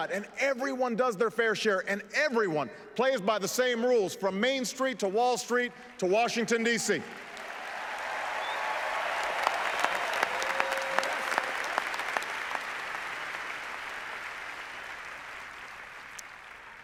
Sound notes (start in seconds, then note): 12.3 applause